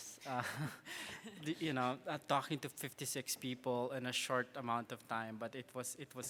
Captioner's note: laughs